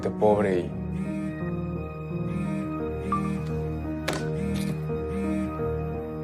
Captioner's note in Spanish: Vibra un celular